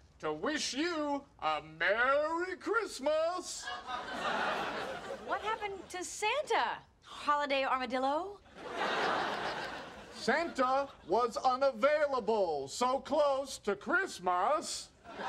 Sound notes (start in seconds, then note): 3.6 audience laughing; 8.5 audience laughing